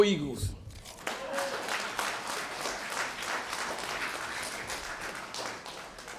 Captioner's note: applause